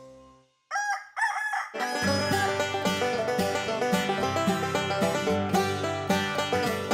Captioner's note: rooster crowing